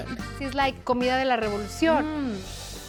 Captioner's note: speaking Spanish